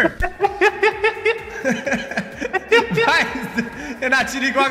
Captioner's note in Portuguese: risos